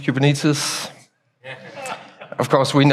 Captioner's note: audience chuckles